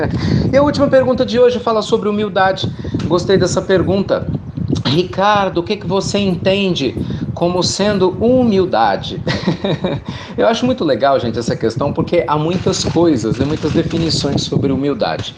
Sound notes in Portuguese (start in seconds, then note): 9.2 Risos